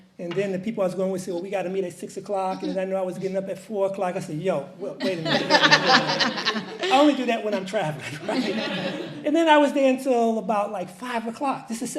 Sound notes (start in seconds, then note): 5.0 audience laughs